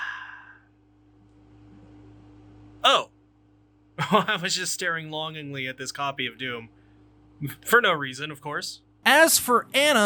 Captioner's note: sigh